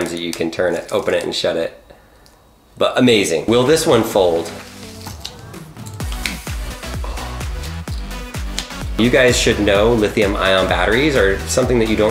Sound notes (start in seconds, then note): 5.8 snapping sounds